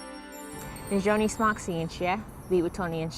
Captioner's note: foreign language